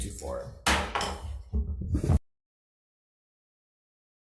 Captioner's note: gavel bangs